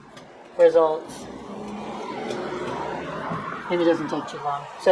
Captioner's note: sound of car passing